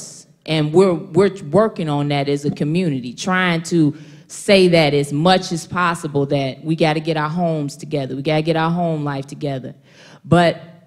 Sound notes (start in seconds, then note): none